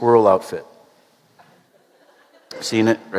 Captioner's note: laughter